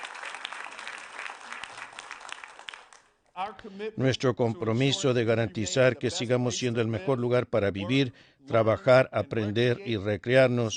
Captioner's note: applause